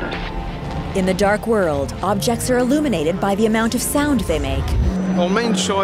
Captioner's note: rising noise, muffled voices